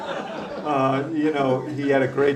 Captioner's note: laughter